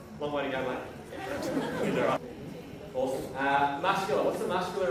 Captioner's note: laughter